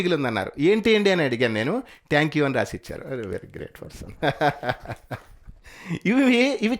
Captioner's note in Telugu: నవ్వు